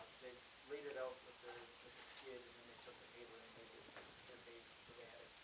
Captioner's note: person speaking quietly